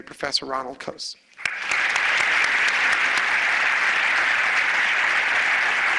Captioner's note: applause